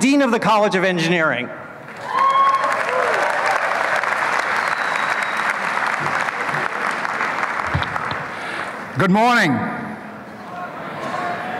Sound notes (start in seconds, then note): 1.9 applause